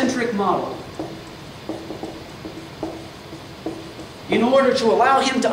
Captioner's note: marker clacks